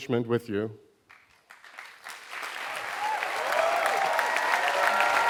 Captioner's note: applause